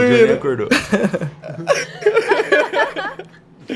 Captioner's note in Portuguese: Risadas